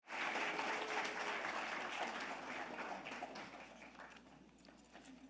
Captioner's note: audience applauding